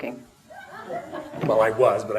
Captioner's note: audience laughter